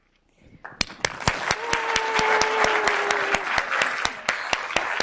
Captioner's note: audience applauds